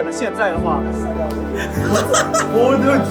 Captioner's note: laughs; teammates laughing